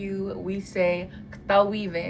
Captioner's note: speaks in Ponca